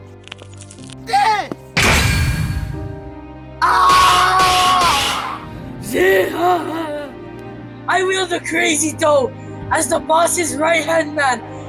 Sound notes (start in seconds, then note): 3.6 wailing in failure